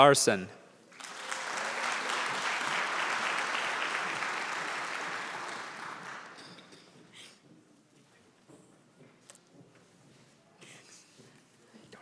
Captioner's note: applause